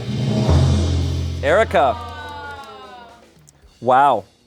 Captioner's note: audience exclaims